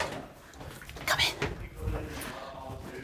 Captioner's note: whispers